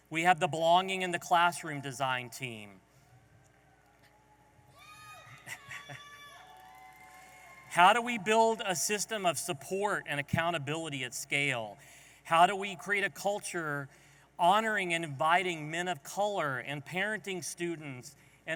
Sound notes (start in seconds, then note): 4.6 audience applauding and cheering